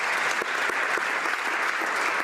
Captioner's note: some Applause